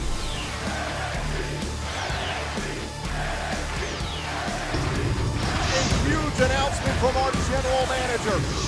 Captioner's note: fans chanting